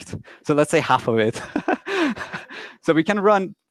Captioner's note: laughs loudly